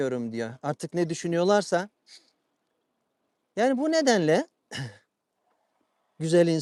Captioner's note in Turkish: boğazını temizler